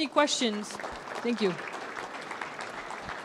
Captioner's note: applause